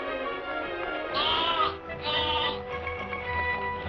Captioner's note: bleating